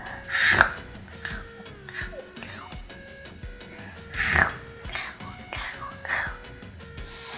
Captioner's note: chewing sounds